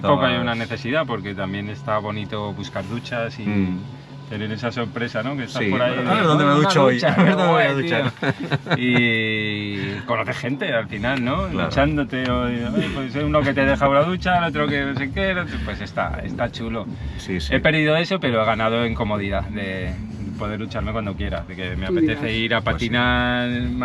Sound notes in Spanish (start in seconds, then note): 7.8 risas